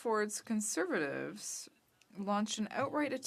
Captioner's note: speaking french